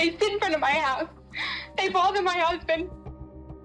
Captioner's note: sobs